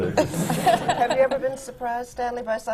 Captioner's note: laughter